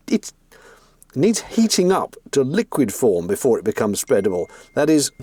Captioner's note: phone 'pings'